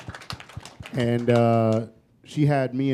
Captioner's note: applause